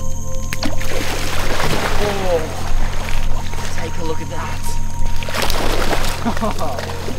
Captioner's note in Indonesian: croc calling; spalsh; splash; laugh